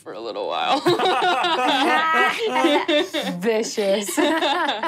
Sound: laughing

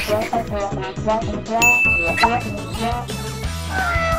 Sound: ding

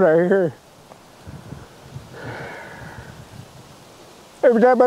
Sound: soft wind

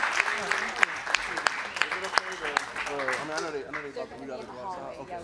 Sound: audience applauds; audience murmuring

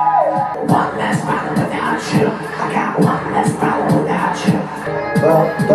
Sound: whispering

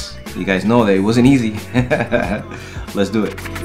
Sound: laughing

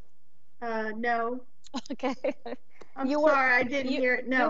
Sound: laughs

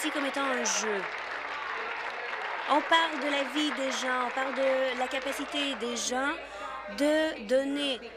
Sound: applause

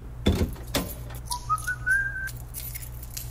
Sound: man whistles

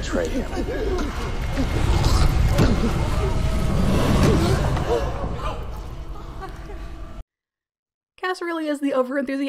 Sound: congregation gasps

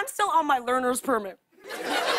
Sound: laughter

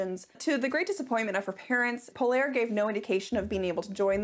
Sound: none

